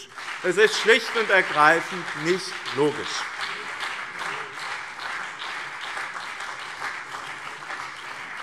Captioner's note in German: Beifall BÜNDNIS 90/DIE GRÜNEN und CDU